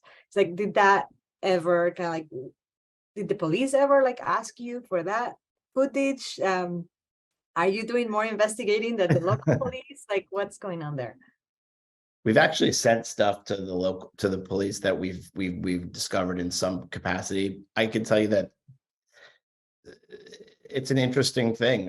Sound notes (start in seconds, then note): 9.0 laughs